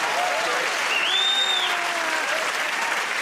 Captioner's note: cheers and applause; whistles